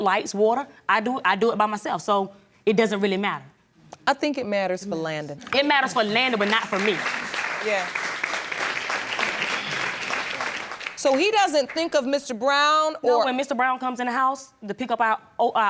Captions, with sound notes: a roof over their head, lights, water, I do it by myself, so it doesn't really matter. I think it matters for Landen. It matters for Landen, but not for me. Yeah. (AUDIENCE APPLAUDS) So, he doesn't think of Mr. Brown or... No, when Mr. Brown comes in the house,